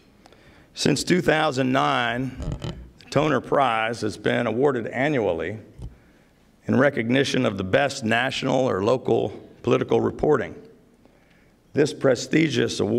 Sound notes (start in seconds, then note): none